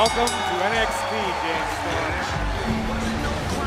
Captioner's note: bell